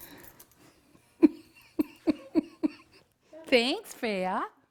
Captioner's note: laughing